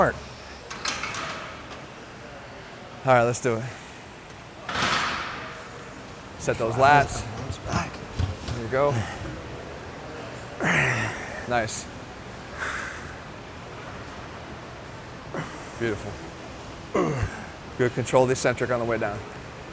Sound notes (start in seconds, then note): 6.2 metal clanging; 10.6 grunts; 12.5 heavy breaths